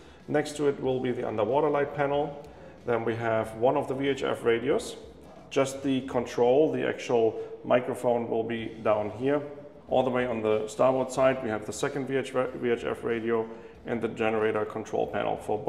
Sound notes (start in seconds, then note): none